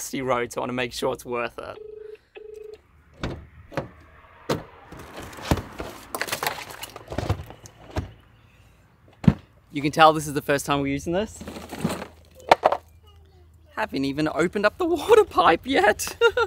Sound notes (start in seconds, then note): 1.7 phone continues ringing; 3.2 doors click open; 6.1 bags scattering; 9.2 suitcase thuds; 16.0 laughing